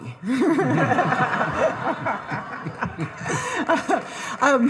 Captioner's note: all laughing